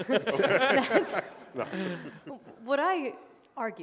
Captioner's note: laughter